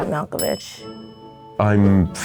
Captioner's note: bell dinging